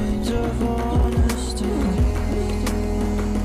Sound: none

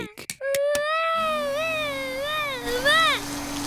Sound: vacuum cleaner whirring

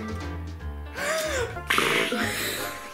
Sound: gasp; bubbling effect

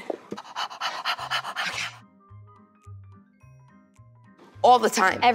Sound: heavy breathing

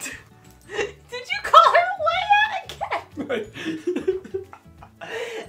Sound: laughing

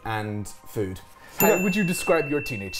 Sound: bell dings

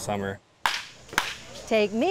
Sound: bat cracks

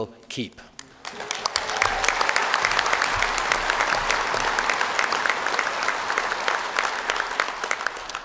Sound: applause

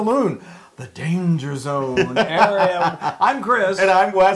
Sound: laugh

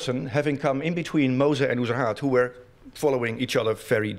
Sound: non-english speech

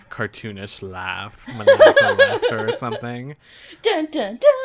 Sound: laughs

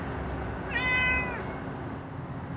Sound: cat meows

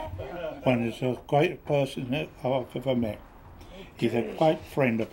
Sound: mumbling

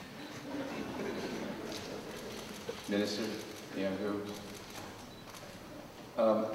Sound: audience laughter

